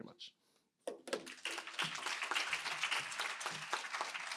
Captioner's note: applause